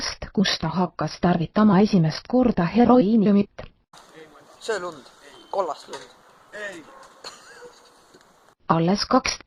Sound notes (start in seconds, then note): 7.2 film crew boi giggles